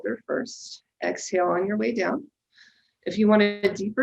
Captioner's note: exhales sharply